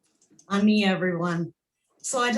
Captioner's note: speaking in foreign language